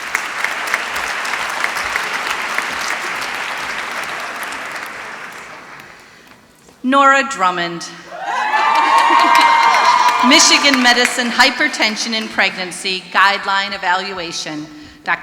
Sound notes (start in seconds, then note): 0.0 applause; 8.1 screaming